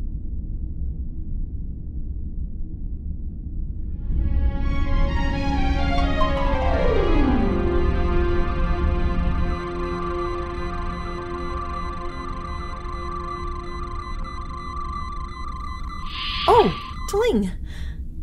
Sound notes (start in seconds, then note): 3.9 quiet music; 8.8 medical scanner sounds